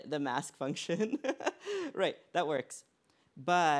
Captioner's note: laughs